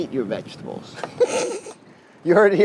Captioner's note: laughing